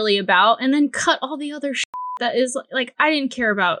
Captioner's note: beep